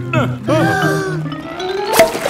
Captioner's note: breathing in